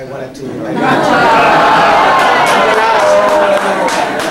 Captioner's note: laughter